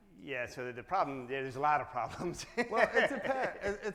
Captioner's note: laughs